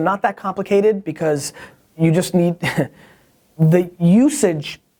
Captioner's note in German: lacht